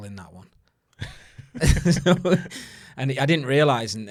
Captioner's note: both laughing